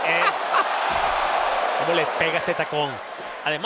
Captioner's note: laugh